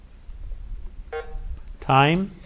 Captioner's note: button buzzing